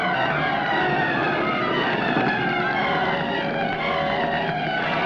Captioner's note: flames roaring